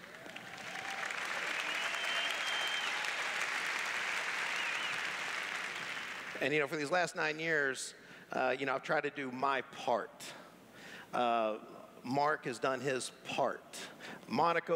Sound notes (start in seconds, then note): 0.0 applause; 2.1 cheers